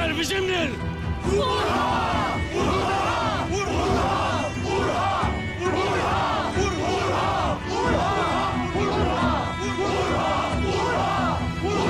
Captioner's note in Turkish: Bağırarak